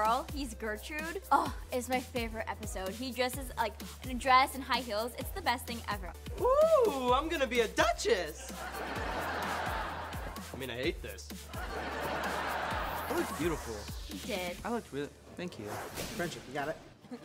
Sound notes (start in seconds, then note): 8.5 laughing; 11.7 laughing